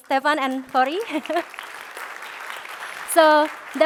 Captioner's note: applause